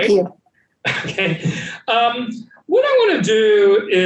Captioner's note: laughing